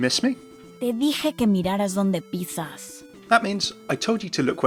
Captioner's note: Sombra speaking in foreign language